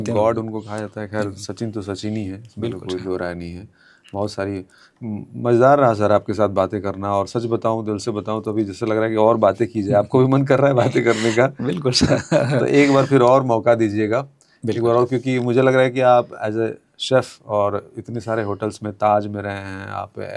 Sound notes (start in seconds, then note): 10.8 laughs